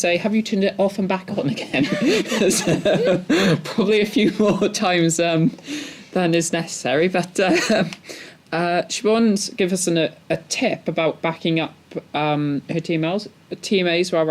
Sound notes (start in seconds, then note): 1.7 laughs